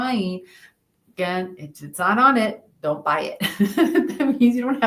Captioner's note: laughs